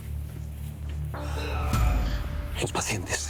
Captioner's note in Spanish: Quejidos